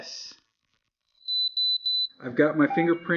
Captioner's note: beeps